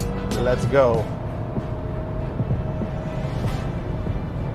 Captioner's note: car engine roaring